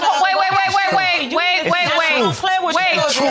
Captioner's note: all chattering indistinctly